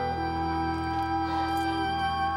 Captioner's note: breathing heavily